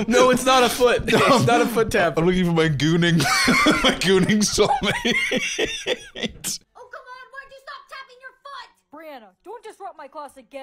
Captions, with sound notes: "No, it's not a foot! It's not a foot tap!" "I'm looking for my gooning soulmate." (laughing)